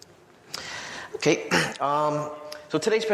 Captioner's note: clears throat